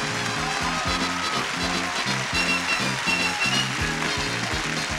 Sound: applause, cheering

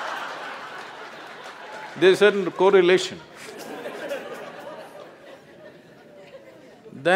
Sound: laughter/Applause; laughter

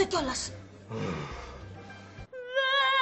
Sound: vlassis roars

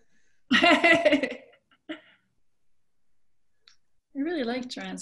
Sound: laughs

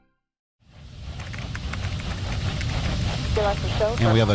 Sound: keyboard clicks

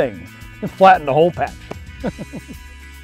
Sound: laughs

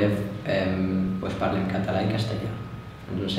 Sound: Spanish

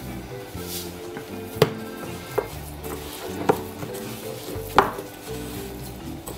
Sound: squelching

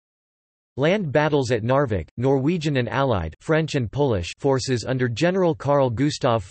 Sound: french and Polish

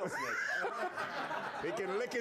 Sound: laughter

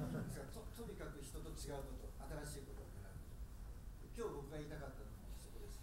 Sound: speaking in foreign language

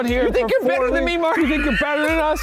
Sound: laughs

